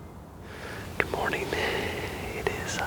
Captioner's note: whispering